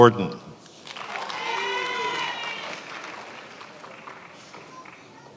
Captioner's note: attendees applauding